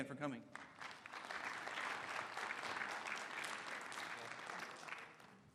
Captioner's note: applause